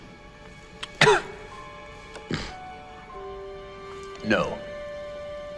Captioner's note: coughs